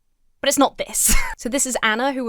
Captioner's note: wheezes